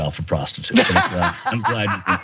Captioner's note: laugh